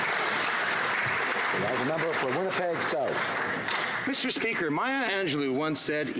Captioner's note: some Applause